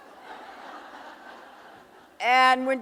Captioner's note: audience laughing